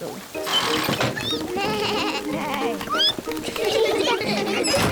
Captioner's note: all giggle